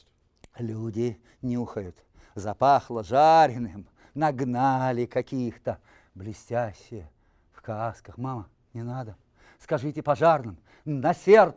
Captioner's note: reciting poem in Russian